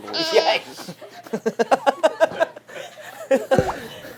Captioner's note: laughing